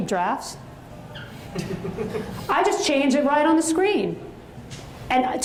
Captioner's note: audience chuckles